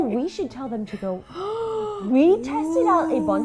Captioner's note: both gasping